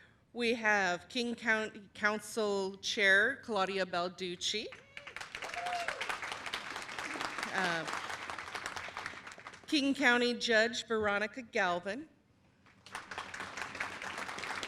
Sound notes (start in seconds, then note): 4.7 cheers and applause; 12.6 applause